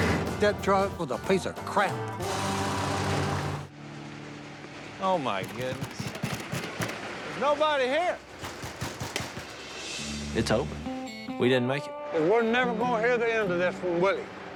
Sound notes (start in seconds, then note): 5.4 knocking